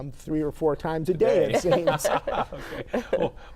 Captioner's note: laughs